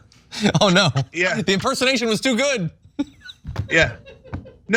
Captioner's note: laugh